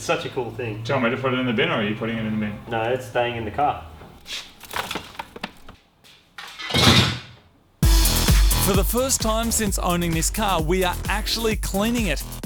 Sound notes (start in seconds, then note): 4.6 clatters and rattles; 6.4 metallic clattering; 6.7 thud